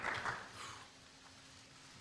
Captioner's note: applause